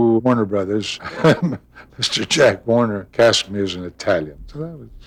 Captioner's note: laughing